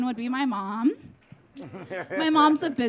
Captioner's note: audience laughing